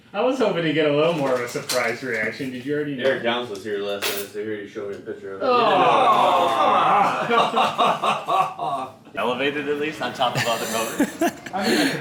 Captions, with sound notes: I was hoping to get a little more of a surprise reaction Did you already know? Eric Younts was here last night So he already showed me a picture of it... [Collective Group Dissapointment]